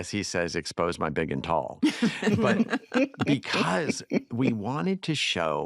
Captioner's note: all laugh